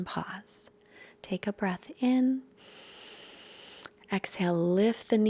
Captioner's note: loud breath